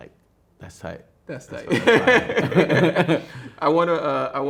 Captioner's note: laughs